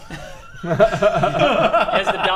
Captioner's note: gruesome giggles